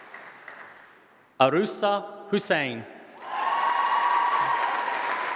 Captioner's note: applause